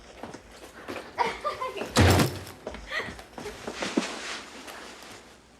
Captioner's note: Holly chuckling